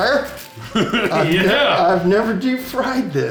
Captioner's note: laughs